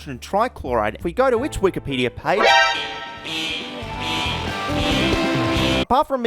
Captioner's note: yellow alarm noises